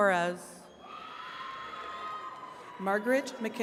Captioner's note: attendees cheering